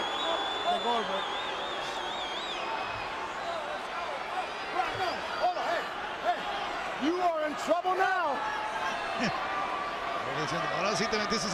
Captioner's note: applause; laugh